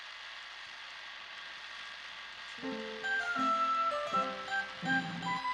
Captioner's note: whirring